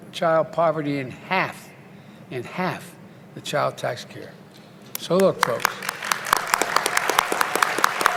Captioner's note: applause